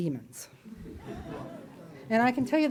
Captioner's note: audience laughs